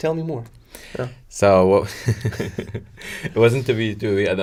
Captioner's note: laughs